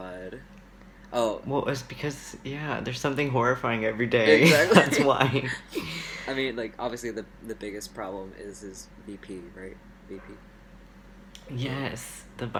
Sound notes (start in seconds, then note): 4.3 laughs